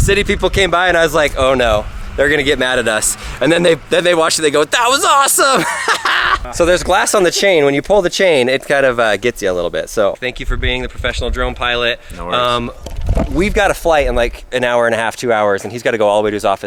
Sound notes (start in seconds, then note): 4.8 laughs